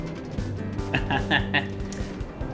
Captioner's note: laughs